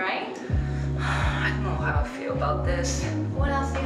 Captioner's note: sighs